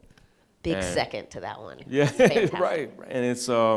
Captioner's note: chuckles